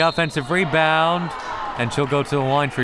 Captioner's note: whistle